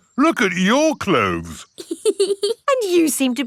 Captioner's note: laughs